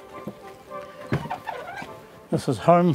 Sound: door squeaks

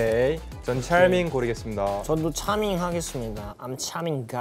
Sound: speaking in Korean

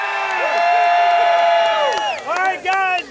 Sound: crowd cheering

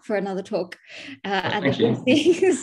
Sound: laughs

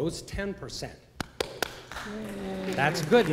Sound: applause

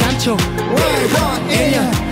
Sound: brrrr

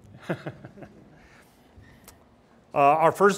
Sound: laughs

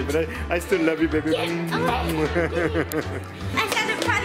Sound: laughs

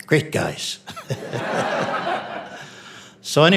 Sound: audience laughing

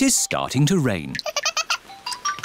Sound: giggles

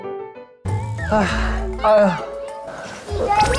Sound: but they're groaning away

